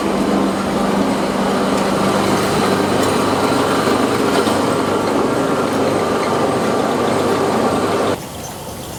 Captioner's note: machinery humming